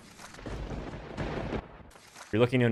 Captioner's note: lightning strike